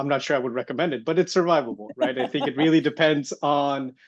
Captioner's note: laughing